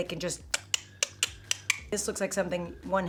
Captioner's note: mouth clicking